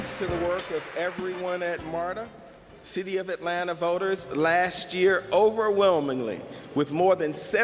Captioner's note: applause